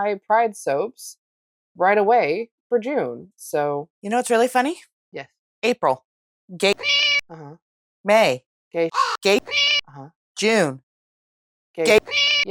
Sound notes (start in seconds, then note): 6.7 meow; 8.9 caw; 11.8 meow